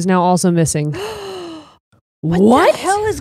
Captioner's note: gasps